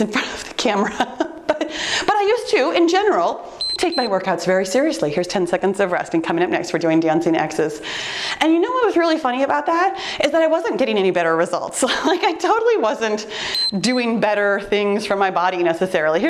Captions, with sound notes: in front of the camera. (laughs) But I used to, in general, (timer beeps) take my workouts very seriously. Here's 10 seconds of rest, and coming up next, we're doing dancing Xs. And you know what was really funny about that is that I wasn't getting any better results. Like I totally wasn't (timer beeps) doing better things for my body necessarily.